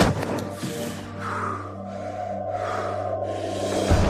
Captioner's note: breathing heavily